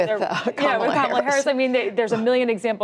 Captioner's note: laughter